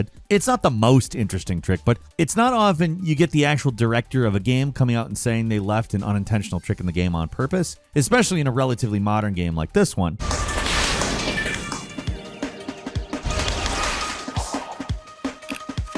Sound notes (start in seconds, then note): 10.3 Sonic whooshing; 11.0 upbeat music